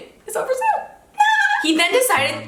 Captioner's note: giggling